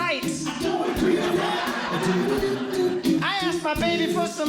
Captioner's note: audience Laughing